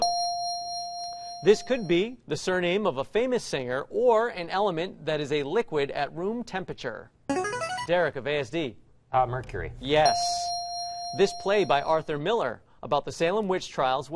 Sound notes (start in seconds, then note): 0.0 ding; 6.5 buzzer plays; 10.0 ding